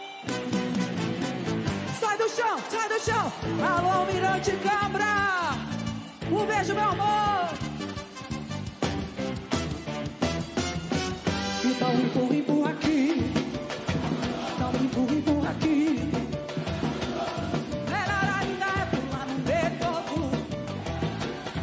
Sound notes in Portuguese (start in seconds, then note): 1.7 aplausos